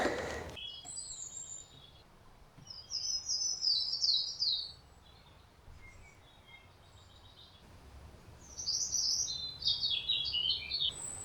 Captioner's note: birds chirping